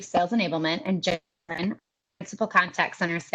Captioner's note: audio is choppy